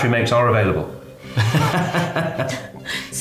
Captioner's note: laughing